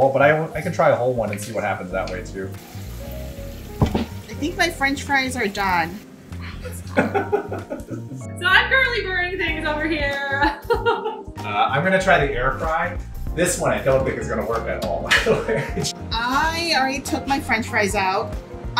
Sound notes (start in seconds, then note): 2.8 oil sizzling; 6.9 laughs; 11.2 laughs; 15.1 laughs